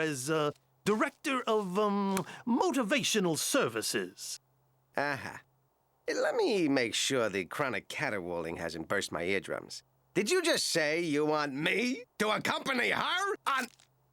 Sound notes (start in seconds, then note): none